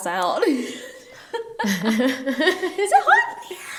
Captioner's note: both laugh